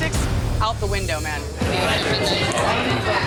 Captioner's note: chatter